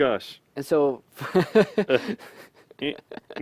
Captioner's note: laughter